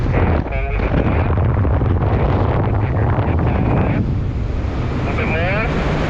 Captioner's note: roaring wind drowns out the radio